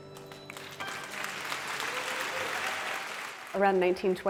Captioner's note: audience clapping